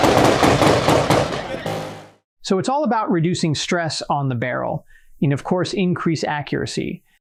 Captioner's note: gunshots